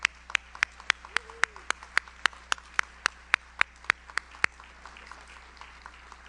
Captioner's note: audience applauds; audience member cheers